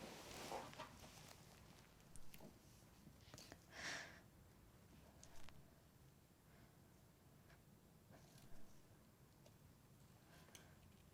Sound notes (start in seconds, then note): none